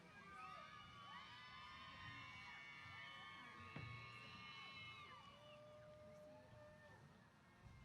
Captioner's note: cheers